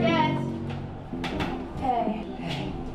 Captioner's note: door closes